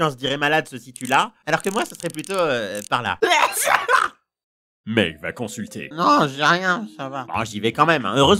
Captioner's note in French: Éternument